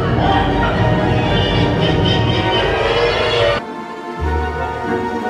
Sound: skeleton laughing; instrumental music

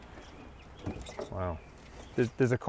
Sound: car hood creaks

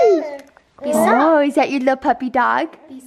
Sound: voiceover

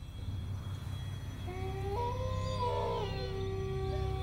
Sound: wolf howling

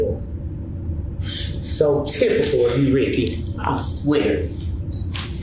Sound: scoffs

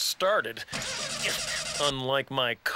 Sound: engine sputtering; grunts

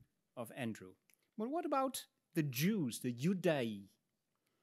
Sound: speaks in Latin

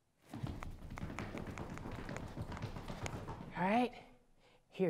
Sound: feet quickly pounding

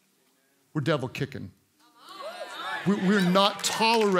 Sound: congregants cheer

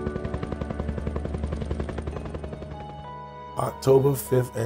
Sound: music and Helicopter Sounds

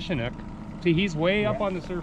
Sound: winch motor running

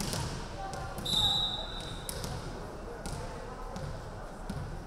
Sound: referee whistling

